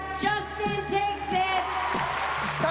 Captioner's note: cheering and applause